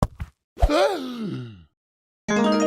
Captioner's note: gasp